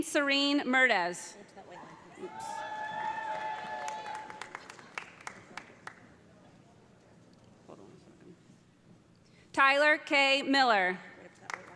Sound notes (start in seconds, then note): 2.2 audience cheering; 2.3 audience applauding